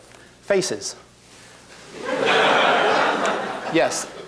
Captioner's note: laughter